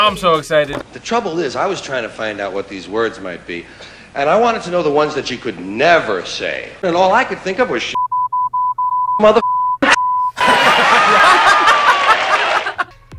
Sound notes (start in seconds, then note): 10.4 laughs